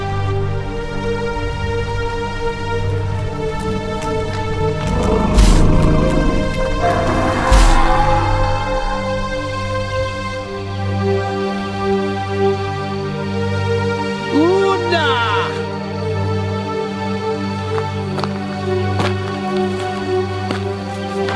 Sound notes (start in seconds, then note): 4.9 dinosaur growling; 4.9 feet stomping; 9.7 pensive music continues; 18.3 gravel crunching